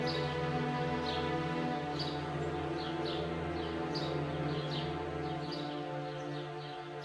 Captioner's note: birds chirping; gentle music continues